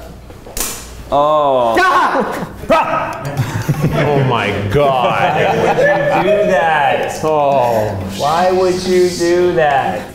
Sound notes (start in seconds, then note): 1.7 screams; 2.0 laughs; 2.6 yells